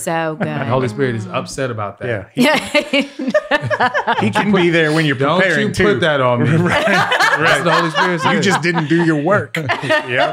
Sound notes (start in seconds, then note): 2.5 all laugh